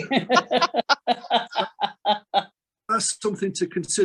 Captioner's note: participants laughing